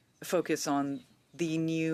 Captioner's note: speaking French